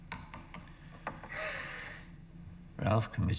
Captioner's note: sobbing